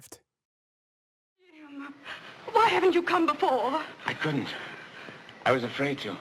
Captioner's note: soundbite of film, "i am a fugitive from a chain gang"